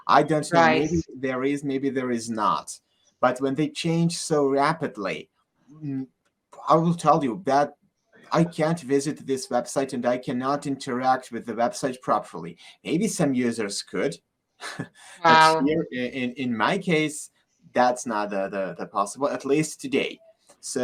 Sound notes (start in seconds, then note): 14.6 chuckles